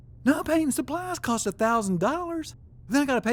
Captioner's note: none